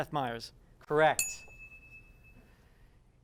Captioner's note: ding